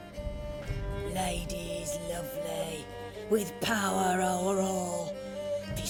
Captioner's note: chanting